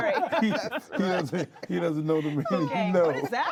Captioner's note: laughs